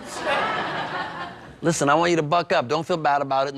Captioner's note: laughter